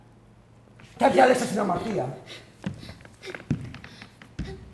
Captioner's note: λυγμός